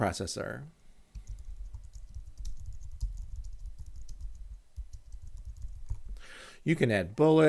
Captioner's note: typing on screen